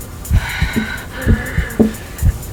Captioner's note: tapping